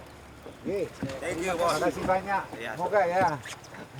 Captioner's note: man speaking Austronesian language